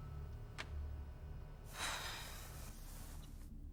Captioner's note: Alice sighs